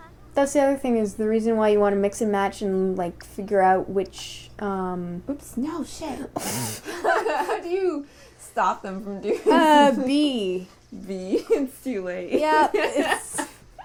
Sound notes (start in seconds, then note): 6.4 laughing; 6.8 laughter